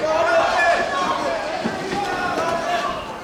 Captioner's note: indistinct shouting